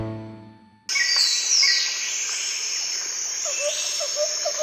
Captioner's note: birds chirping